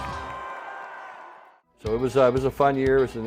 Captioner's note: crowd cheering